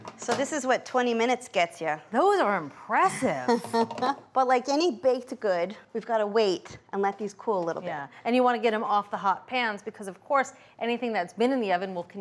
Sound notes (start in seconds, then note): 3.3 laughs